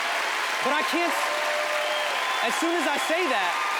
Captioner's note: audience cheering